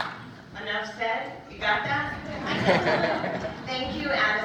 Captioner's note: laughter